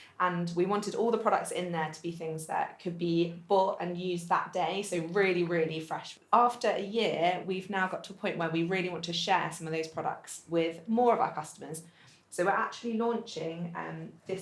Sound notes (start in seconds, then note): none